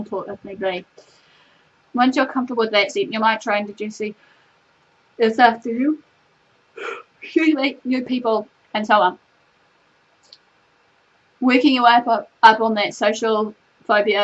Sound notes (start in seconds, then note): 4.1 yawns; 6.8 sighs